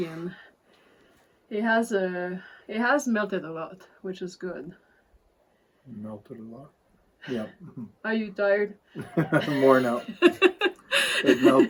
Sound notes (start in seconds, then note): 9.0 laughters